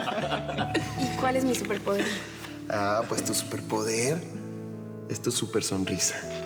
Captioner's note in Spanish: risas